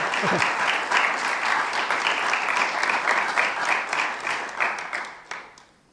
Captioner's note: audience continues applauding